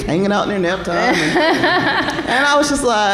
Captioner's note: laughter